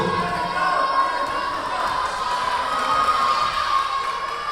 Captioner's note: yelling